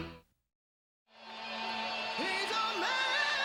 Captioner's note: crowd cheering